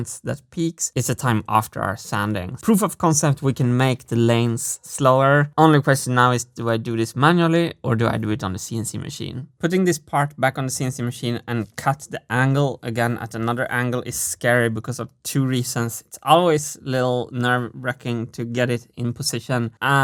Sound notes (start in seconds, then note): none